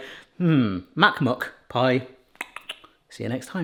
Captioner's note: tongue clicks